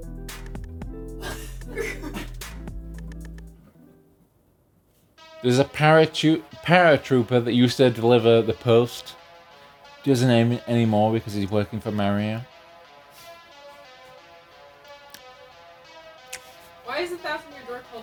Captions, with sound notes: [nervous laughter] [silence] There's a paratroop - Paratroopa that used to deliver the post. He doesn't anymore, because he's working for Mario.